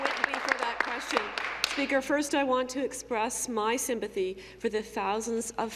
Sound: applause

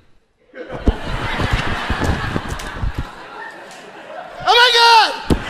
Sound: audience laughing

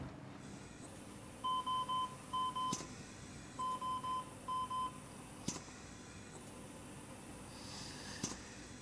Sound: mechanical Ventilation beeping

